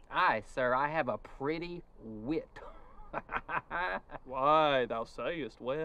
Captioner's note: laughing